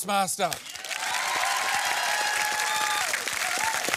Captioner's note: cheering and applause